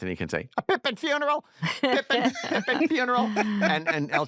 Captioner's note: laughter